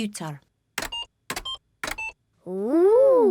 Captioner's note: computer beeping